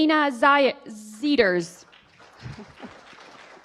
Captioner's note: applause